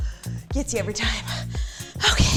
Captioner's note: breaths heavily